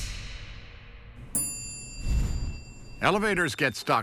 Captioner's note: bell chimes